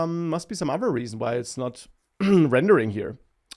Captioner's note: clears throat